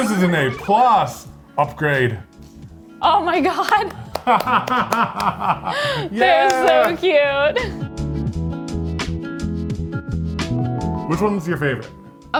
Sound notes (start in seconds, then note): 3.5 claps; 4.1 laughs; 8.4 upbeat music